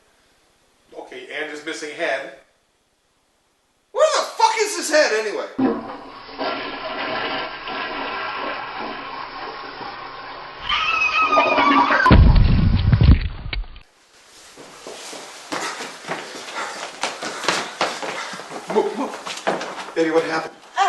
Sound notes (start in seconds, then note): 5.6 toilet flushes; 8.3 scream!; 8.3 thud of body falling